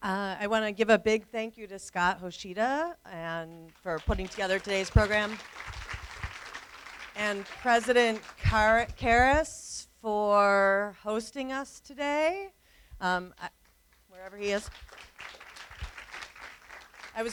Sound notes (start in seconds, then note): 5.4 applause; 14.1 applause